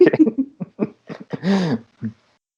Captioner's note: laughter